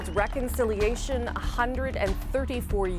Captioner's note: applause